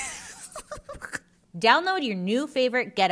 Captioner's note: laughing